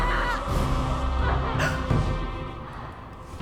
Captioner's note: Claire screams; Rachel gasps